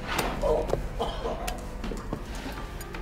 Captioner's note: groans